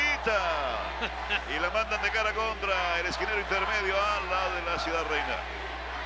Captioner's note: laugh